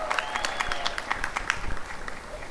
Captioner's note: applause and cheering